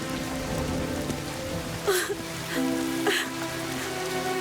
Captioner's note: sobbing